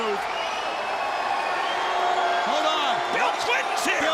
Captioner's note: crowd cheering